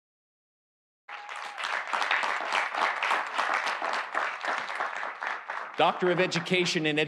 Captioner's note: audience applauding; audience cheering